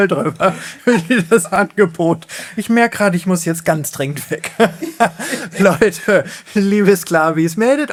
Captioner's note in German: gelächter; gelächter